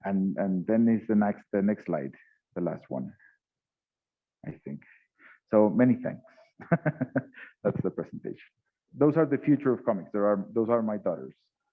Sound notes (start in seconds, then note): 6.6 laughs